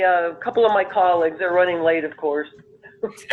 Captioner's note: laughter